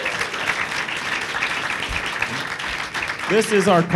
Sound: applause

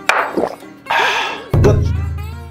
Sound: laughing

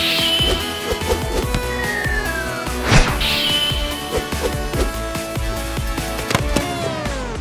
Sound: anime transformation music; sword whooshing; music faltering

